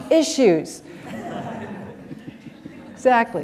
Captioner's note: laughter